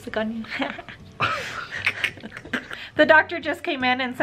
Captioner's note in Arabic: كلاهما يضحكان